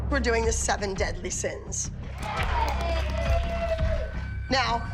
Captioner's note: girls cheering